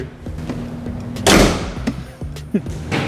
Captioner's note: heavy Clicked Sound From The Hood